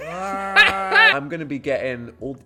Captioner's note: groaning; laughing